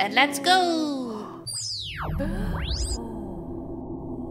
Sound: laser beam

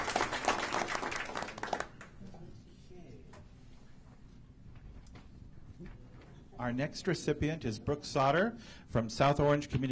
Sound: applause

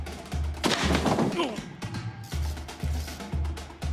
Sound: door breaks

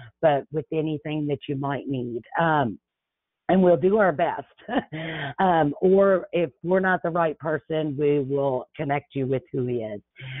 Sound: laughs

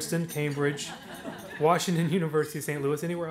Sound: audience laughs

